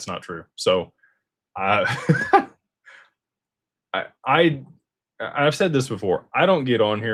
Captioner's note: laughter